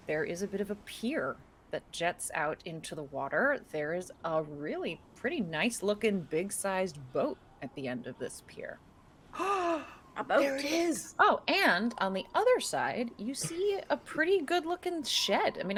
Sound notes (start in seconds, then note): 9.4 person gasping